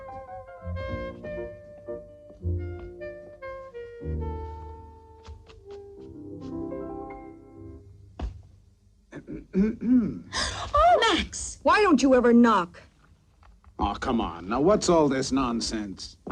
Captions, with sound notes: (throat clearing) - (gasping) - Max! Why don't you ever knock? Come on, now what's all this nonsense?